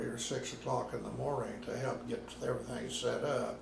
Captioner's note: none